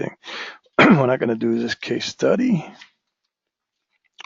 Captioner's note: cough